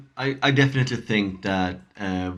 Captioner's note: none